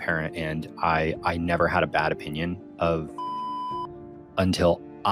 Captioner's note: beep